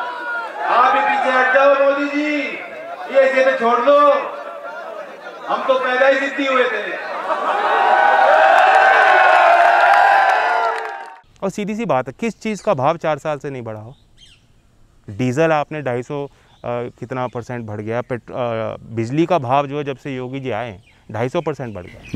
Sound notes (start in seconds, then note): 8.3 crowd applause